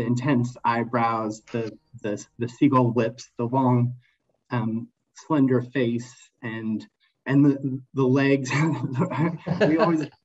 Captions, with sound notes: the intense eyebrows, the seagull lips, the long slender face, and the legs. (laughs)